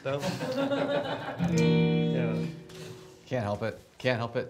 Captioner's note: audience laughs